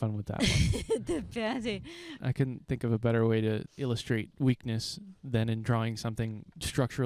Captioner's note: laughing